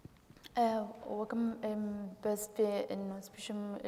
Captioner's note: speaking kurdish